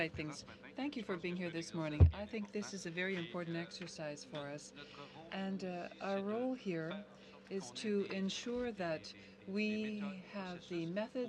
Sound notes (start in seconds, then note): 5.6 speaking French